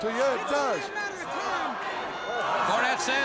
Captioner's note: crowd cheering